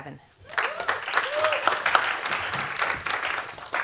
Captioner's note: applause